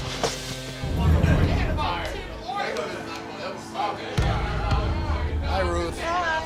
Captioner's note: dramatic suspenseful music; customers chattering